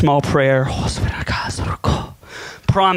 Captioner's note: whispers prayer